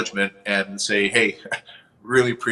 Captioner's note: chuckles